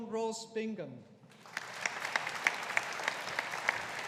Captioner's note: audience applauding